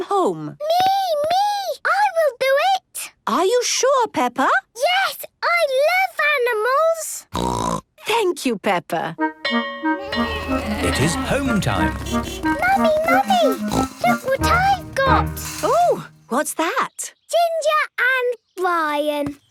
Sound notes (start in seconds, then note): 7.3 snorting; 9.5 bell clanging; 11.8 honking